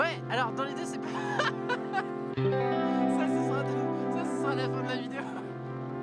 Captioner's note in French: Rires moqueurs affectueux